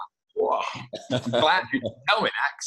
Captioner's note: laughs